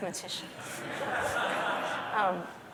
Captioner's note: laughter